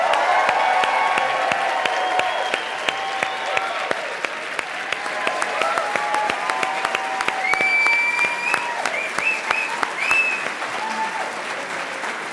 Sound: audience cheers

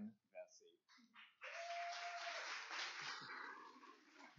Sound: cheers and applause

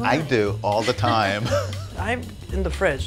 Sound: chuckles

